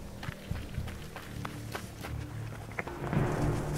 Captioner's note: engine getting louder